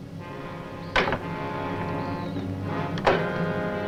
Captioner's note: door clacks